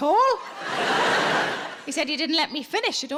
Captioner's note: audience laughs